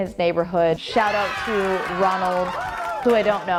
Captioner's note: cheering